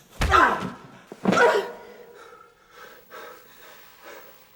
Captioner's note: body falling; punch sound